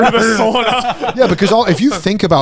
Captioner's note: laughing